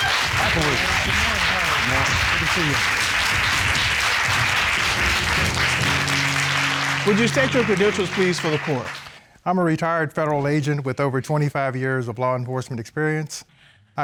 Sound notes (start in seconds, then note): 3.9 applause